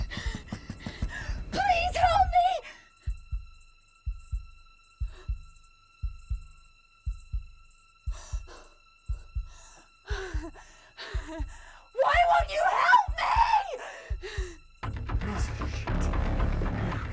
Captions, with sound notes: [gasping] [Frantic pounding on door] Please, help me! [whimpering] [gasping] Why won't you help me?! - Come on, you piece of shit!